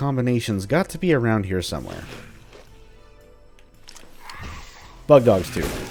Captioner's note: Bugdogs snarling; shotgun blasting